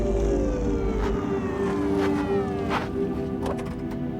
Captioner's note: sirens wailing